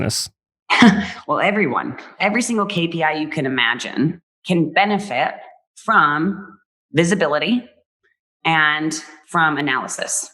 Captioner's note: laughs